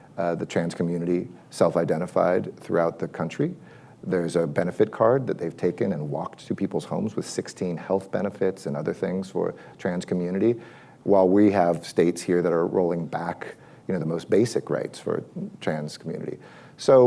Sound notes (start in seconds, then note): none